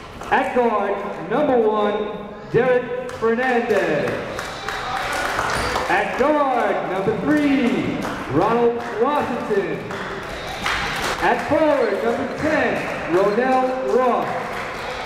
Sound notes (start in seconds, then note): 3.9 applauding; 10.0 cheering